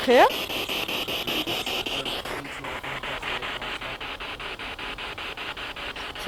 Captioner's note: noise of the spiritbox in the background